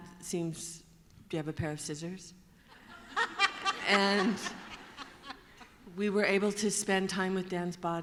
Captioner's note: laughter